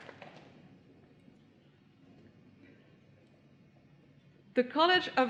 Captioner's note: applause